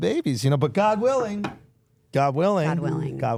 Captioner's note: Andrew knocking